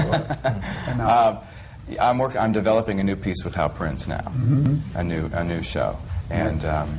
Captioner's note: laughs